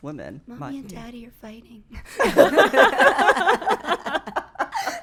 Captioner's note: laughing